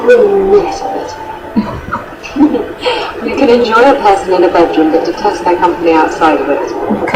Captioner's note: chuckles